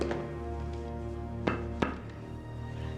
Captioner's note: hollow tap